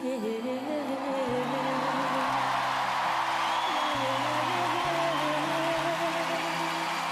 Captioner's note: audience cheering and woman singing